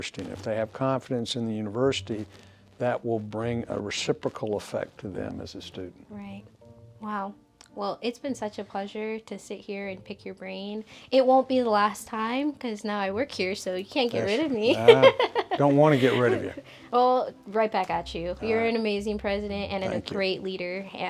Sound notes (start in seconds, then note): 14.7 laughs